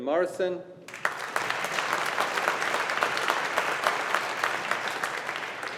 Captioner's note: audience applauding